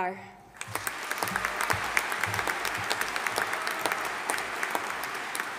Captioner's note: audience applauding